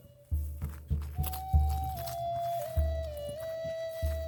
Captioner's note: leaves crunching underfoot